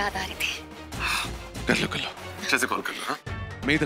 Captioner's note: sighs